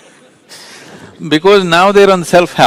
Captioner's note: laughs